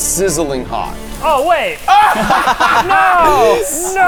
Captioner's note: lava sizzling